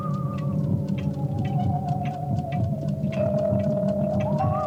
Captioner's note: heart pounding